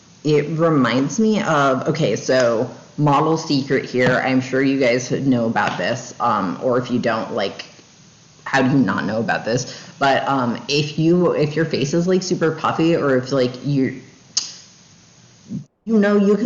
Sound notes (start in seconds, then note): 14.4 tongue click